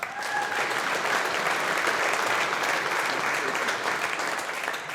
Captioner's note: audience applauding